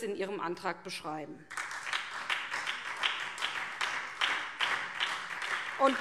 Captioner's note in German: Beifall SPD